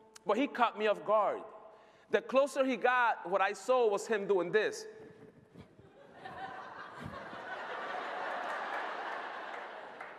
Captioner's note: laughter